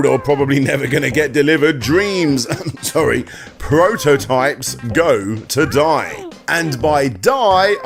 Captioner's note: cough cough